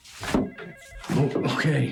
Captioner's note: footsteps thudding; telephone ringing